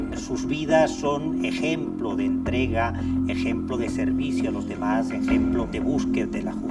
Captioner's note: speaks in foreign language